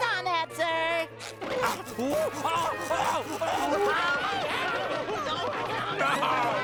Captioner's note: screaming